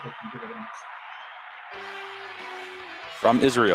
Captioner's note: applause